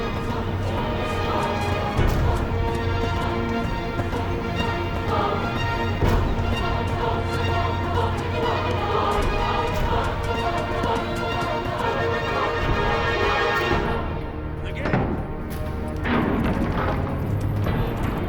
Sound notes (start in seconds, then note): 14.6 heavy doors opening